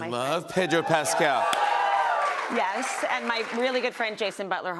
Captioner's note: cheers and applause